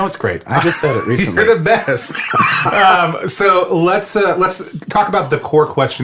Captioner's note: laughs